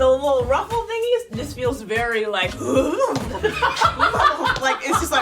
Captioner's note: laughing; horse whinnying